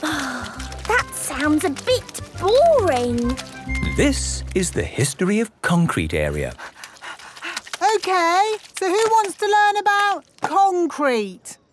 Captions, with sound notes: - Oh... That sounds a bit boring. - This is the History of Concrete Area. - (panting) Okay! So who wants to learn about concrete?